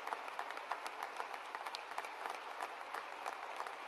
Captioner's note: applause